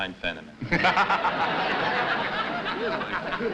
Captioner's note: laughter